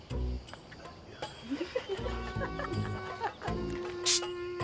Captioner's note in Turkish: Gülme sesleri